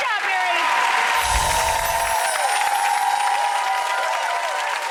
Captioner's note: audience applause